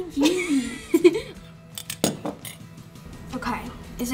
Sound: laughs

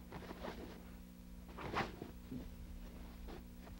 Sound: violent shuffling

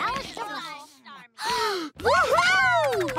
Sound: sighing

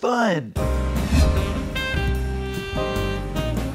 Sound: swoosh

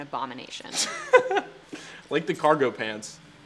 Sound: Marcus laughs

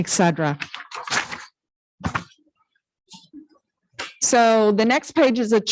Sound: papers flipping

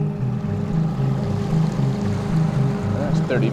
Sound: boat engine revving

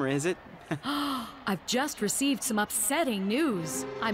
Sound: gasping

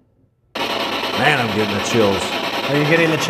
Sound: static signaling

